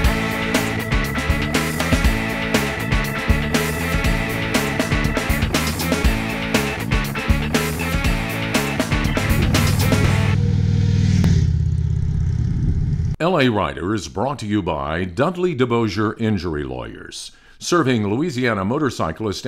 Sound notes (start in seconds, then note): 5.7 bright music continues; 9.6 engines roaring